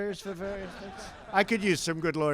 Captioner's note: laughter